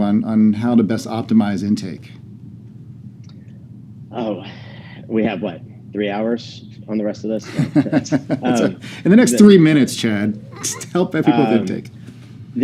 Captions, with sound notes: on how to best optimize intake? - Oh, we have what, three hours on the rest of this? (both laugh) - In the next three minutes Chad, just help people with intake.